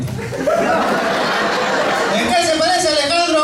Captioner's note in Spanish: risas